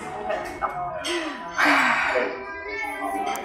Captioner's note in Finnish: Huokaus